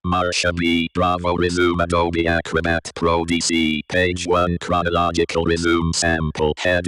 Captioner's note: NVDA voice speaking